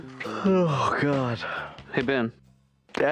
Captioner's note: yawning